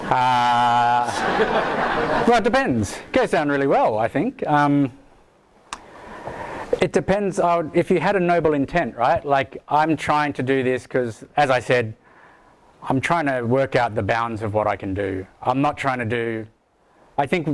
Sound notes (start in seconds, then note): 0.8 audience laughs